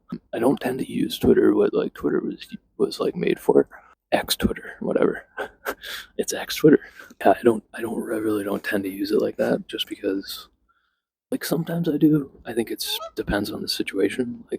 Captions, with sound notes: I don't tend to use twitter what like twitter was, was like made for. X/twitter, whatever. (chuckles) It's ex-twitter. Yeah, I don't- I really don't tend to use it like that, just because… Like, sometimes I do. I think it's… depends on the situation.